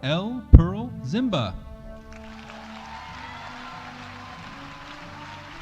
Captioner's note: audience applauding